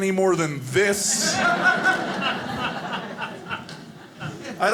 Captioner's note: audience laughing